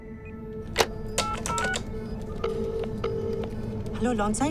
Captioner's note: phone beeping